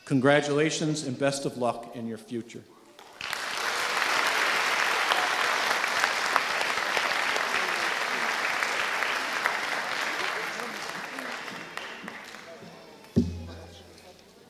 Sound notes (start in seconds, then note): 3.5 audience applauding